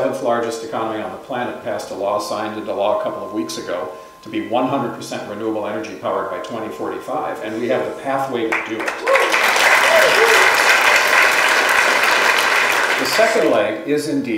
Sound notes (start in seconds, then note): 11.3 applause